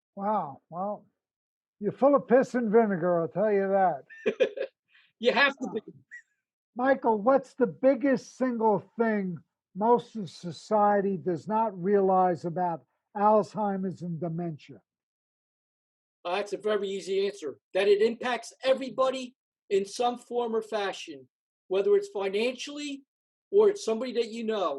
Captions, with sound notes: Wow, oh wow, you’re full of piss and vinegar I’ll tell you that. [Laughs] You have to be. Michael, what is the single biggest thing society does not realize about Alzheimer’s and dementia? That’s a very easy answer that it impacts everybody in some way or fashion. Whether it’s financially, or it’s somebody that you know.